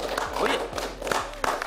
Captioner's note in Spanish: aplausos